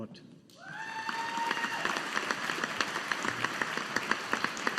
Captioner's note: audience applauding